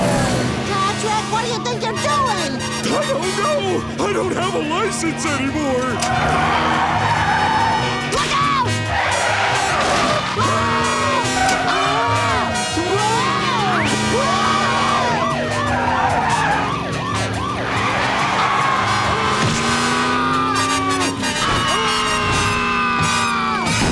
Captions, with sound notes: Patrick, what do you think you're doing?! I don't know. I don't have a license anymore. Look out! [screaming] Whoa! [screaming] [sirens blaring] [screaming]